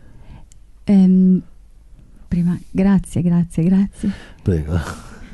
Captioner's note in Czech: mluví italsky